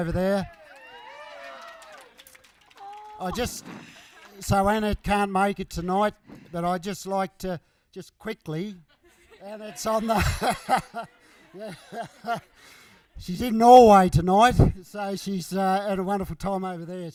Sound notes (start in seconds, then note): 0.3 cheering; 11.7 laughs